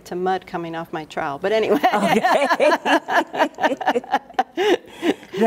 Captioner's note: both laughing